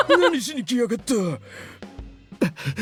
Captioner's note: chuckles